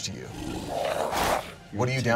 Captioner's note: wolf growls